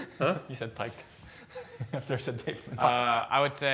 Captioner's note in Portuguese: risos